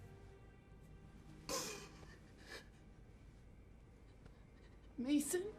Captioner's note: Nikita sobbing